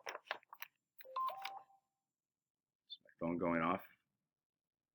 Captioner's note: paper rustling; phone beeping